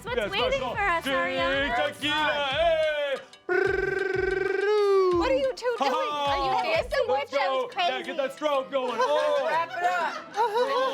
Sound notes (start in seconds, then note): 3.4 Pit Bull rolls R's; 10.7 Pit Bull chuckles